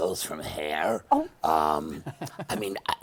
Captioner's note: chuckles